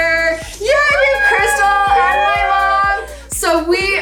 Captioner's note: women squeal